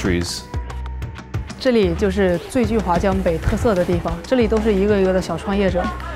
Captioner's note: speaking in Chinese